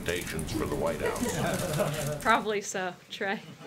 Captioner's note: laughter